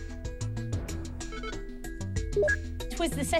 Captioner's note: beeps